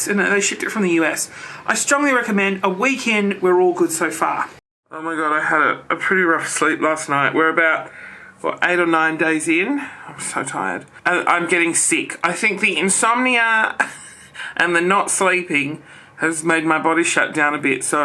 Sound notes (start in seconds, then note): 14.1 laughs